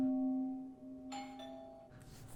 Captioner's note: doorbell